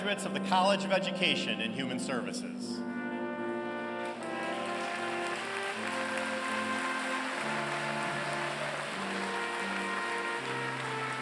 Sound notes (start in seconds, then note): 3.9 applause